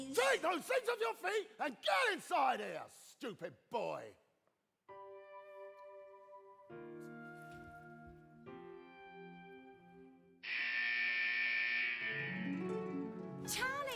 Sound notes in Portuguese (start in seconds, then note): 4.9 soft pensive music; 10.4 alarm blaring; 12.1 mystical music